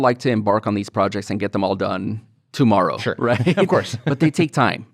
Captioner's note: chuckles